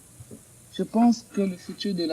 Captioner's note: answers in French